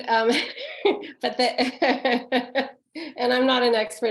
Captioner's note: laughing